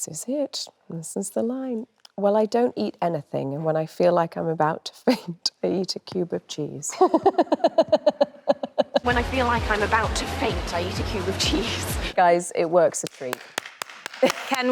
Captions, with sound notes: This is it. This is the line. Well, I don't eat anything and when I feel like I'm about to faint, I eat a cube of cheese. (Anne laughs cheerfully) When I feel like I'm about to faint, I eat a cube of cheese. Guys, it works a dream. (Anne applauding)